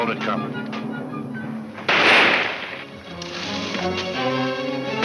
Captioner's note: gun firing; exciting orchestra music; guns firing